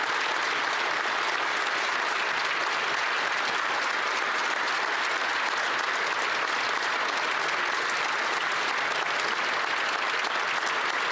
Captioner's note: some Applause